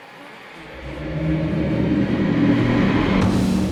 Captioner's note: deep roaring